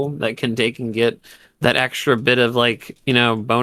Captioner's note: none